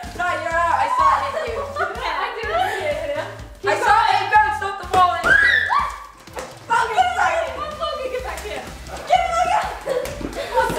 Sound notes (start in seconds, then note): 0.8 laughing; 5.3 laughing and screaming